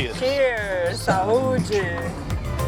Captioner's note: in Portuguese